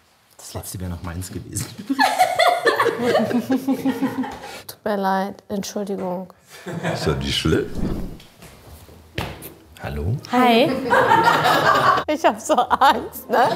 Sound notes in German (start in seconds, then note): 1.7 Mehrere lachen; 6.2 Lachen; 10.7 Gelächter